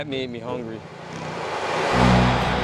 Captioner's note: whoosh sfx; rap instrumental